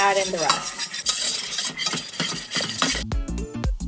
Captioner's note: metallic scraping; upbeat music